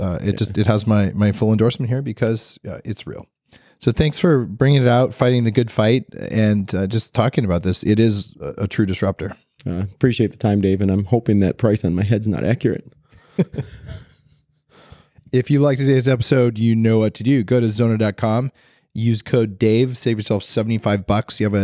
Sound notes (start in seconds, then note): 13.2 laughing